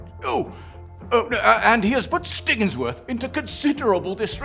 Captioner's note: stammers